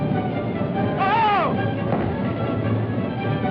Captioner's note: yelling